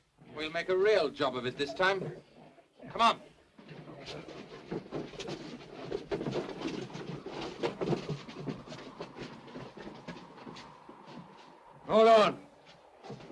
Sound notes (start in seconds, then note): 3.6 sounds of struggling